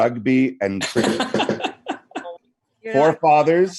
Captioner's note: laughter